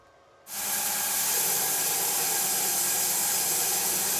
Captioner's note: sawmill sawing